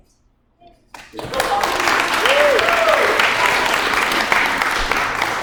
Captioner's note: applause